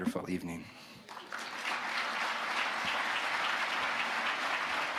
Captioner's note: audience applauding